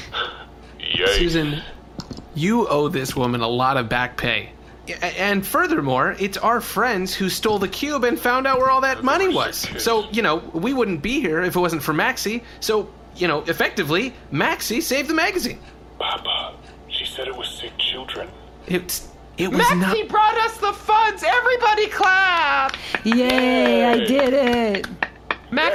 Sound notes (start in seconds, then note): 16.4 whispering; 22.3 applauds